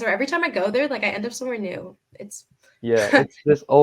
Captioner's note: laughing